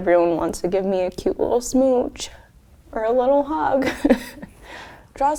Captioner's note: laughs